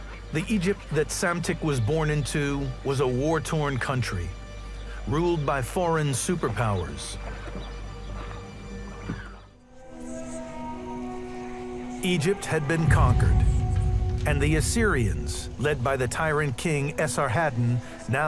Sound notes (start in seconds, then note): 0.0 gentle suspenseful music; 0.0 water babbles; 7.4 gentle suspenseful music; 7.4 water babbles